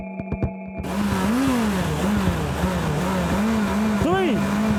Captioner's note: engine revs